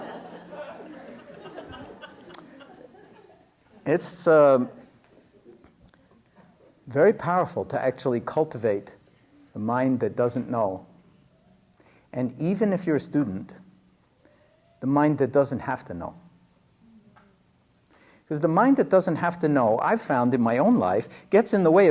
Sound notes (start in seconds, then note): 2.8 laughter